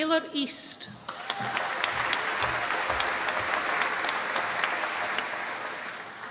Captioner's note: applause